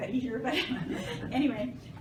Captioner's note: laughter